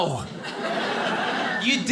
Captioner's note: audience laughing